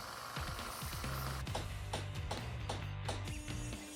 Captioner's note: hammering